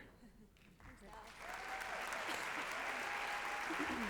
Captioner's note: applause and cheering